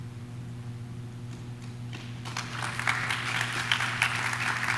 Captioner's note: audience claps